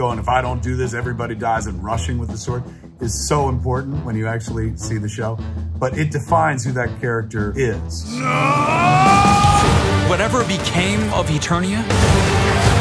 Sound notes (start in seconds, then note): 8.3 yelling